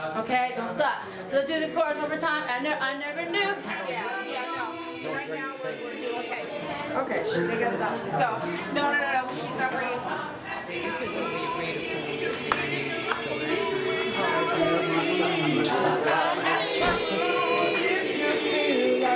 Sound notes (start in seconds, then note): 5.7 backstage chatter; 13.5 singers warming up